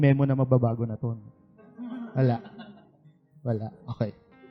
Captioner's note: laughter